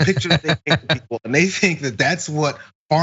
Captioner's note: laugh